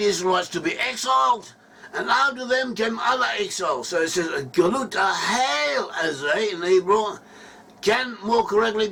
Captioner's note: in Hebrew